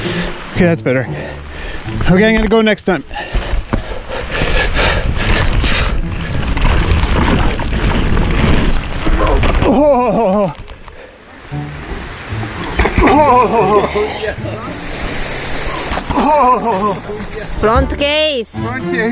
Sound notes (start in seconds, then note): 4.7 heavy breathing; 12.7 exclaiming